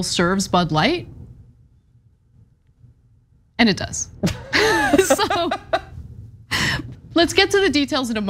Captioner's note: laugh